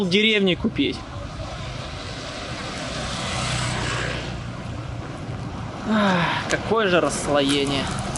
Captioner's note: sighs